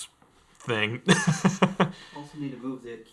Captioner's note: laughing